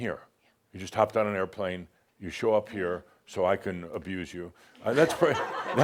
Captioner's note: some chuckles